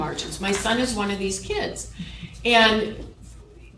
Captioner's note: chuckle